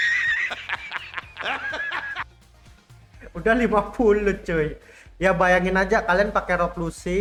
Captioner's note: laughs